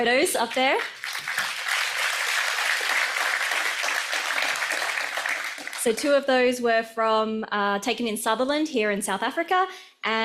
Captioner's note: audience applauds